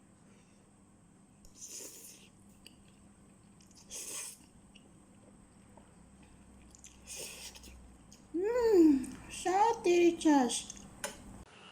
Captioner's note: Slurping Maggi